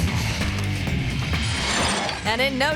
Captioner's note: graphics whooshing; upbeat music; bicycle whooshing